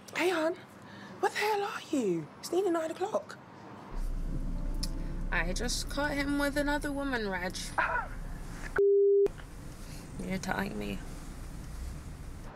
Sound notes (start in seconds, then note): 7.8 scoffs